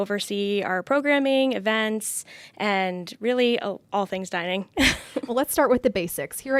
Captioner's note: chuckling